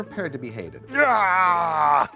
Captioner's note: yells